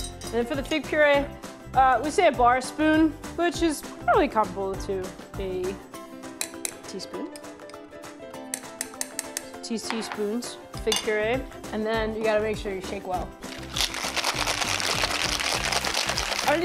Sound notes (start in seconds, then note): 8.5 spoon taps